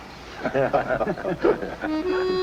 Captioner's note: laughter